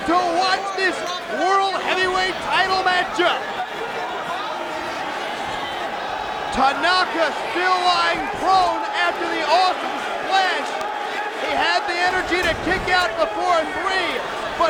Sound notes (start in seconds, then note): 4.0 crowd chattering